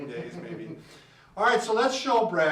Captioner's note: laughing